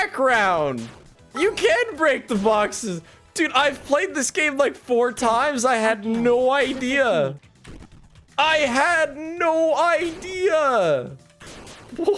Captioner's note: laughing